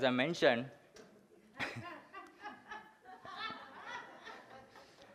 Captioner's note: laughs from audience